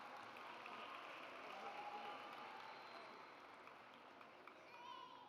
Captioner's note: audience applauds